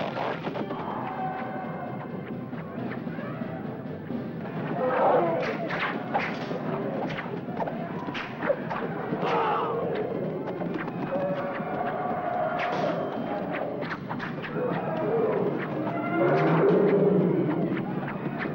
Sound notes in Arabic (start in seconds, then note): 0.1 موسيقى احتفالية مشؤومة; 4.8 زئير الفيلة; 5.2 سهام تنطلق; 8.8 يصرخ الجندي; 10.9 زئير الفيلة; 12.4 سهام تنطلق; 16.1 زئير الفيلة